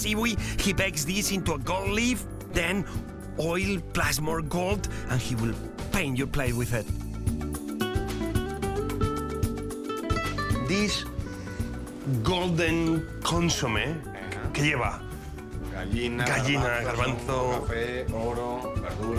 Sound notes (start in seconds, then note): 10.7 sniffs; 14.0 both speaking Spanish